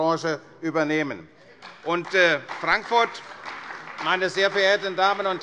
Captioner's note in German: Beifall bei der CDU